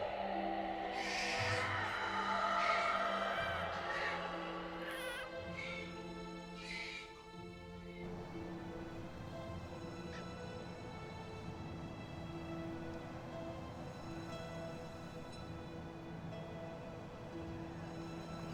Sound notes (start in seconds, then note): 5.3 baby crying; 7.9 soft dramatic music